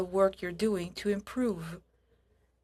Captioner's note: speaking French